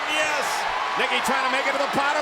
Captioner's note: spectators cheering